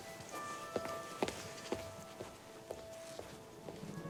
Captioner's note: footstep; bell; bell